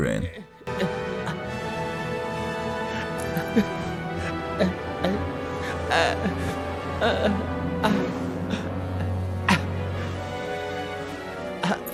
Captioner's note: in-game audio